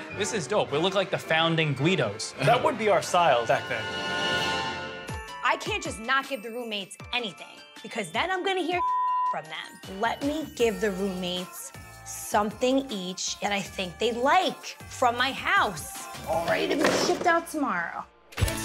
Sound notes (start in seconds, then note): 8.7 beep